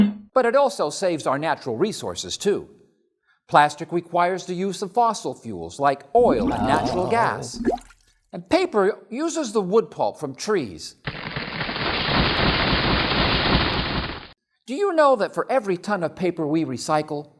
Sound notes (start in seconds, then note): 7.3 plop!; 11.1 sound of trees falling down